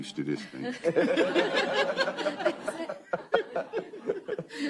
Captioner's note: laughter